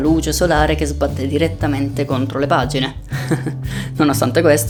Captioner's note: laughs